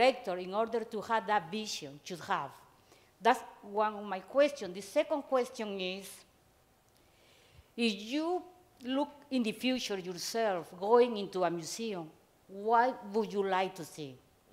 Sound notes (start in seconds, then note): none